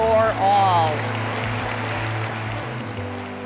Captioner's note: applause